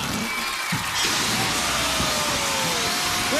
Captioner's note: alarm sounding